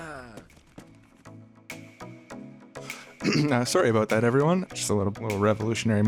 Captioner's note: clears throat